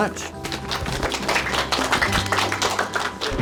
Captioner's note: applause